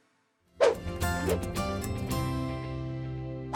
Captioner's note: whoosh